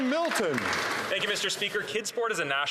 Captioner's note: some Applause